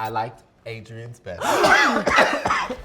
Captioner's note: coughing; gasping